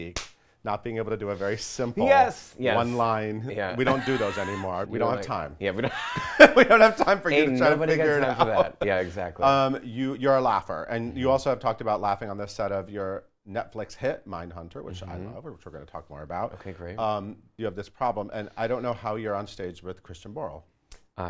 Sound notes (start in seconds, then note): 0.1 claps; 3.8 laughs; 6.8 laughs